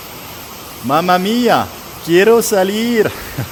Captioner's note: laughter